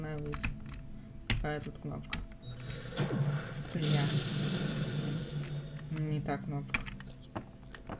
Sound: bang

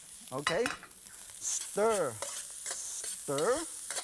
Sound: none

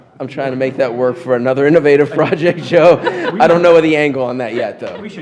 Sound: laughter

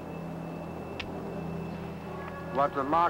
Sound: gun clicking

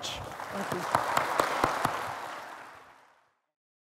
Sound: applause

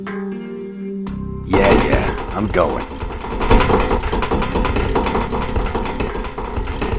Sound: thud

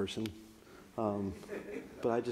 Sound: audience laughs

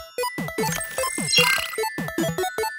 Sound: chirpy, 8-bit style music; UI reversing; chirpy, 8-bit style music

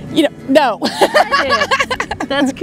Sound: laughs

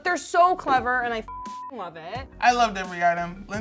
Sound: beep

